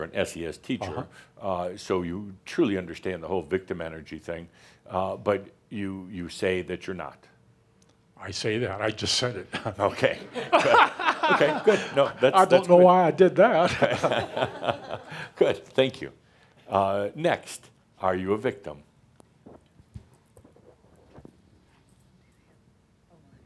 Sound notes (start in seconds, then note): 10.2 laughs heartily; 13.7 chuckles